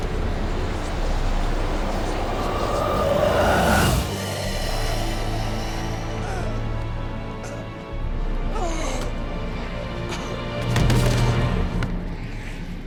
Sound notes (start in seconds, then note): 0.3 ghostly whispering intensifies; 4.2 ghostly, sickly sigh; 7.8 gasp, groan; 10.9 body thumps on floor